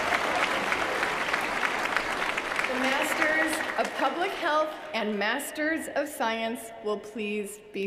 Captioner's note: applause